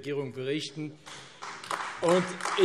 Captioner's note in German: Beifall AfD